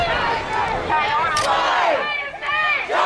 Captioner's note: crowd